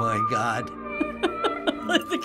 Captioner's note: laughing; laughs